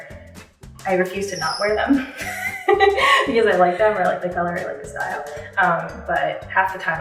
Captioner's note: laughs